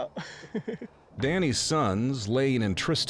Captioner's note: chuckles